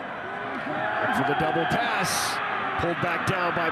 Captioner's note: fans cheer